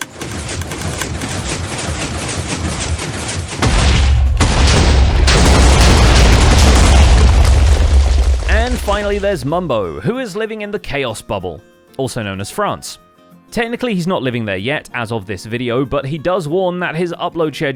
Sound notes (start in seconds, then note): 0.0 piston noises; 3.8 explosions